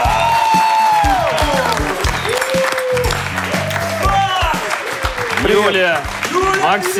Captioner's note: applause